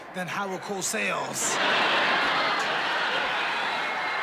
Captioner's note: laughter